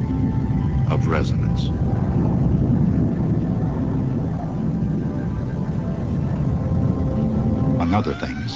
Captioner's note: low rumbling as wind blows